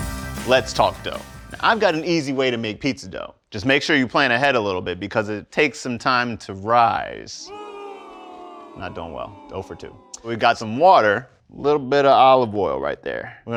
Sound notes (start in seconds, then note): 8.7 boooo!